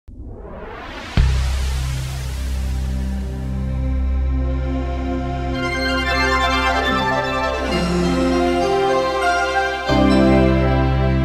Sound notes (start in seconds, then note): 0.1 whooshing; 3.3 humming; 6.2 pleasant music